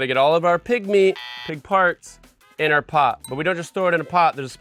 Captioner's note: buzzer sounds